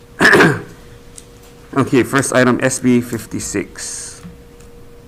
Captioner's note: clears throat